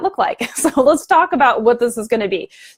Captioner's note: chuckling